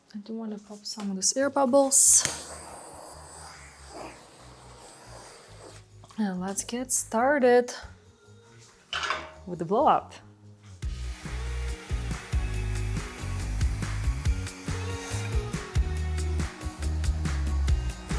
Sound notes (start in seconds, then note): 2.5 air whooshing; 10.8 blower whooshing; 10.9 gentle upbeat music